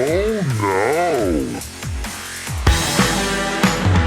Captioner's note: distorted